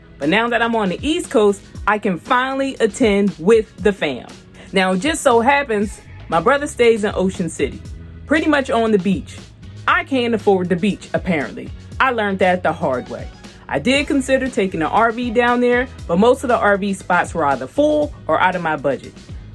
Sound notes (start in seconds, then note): none